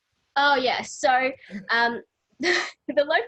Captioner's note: laughs